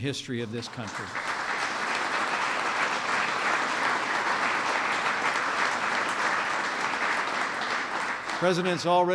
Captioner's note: applause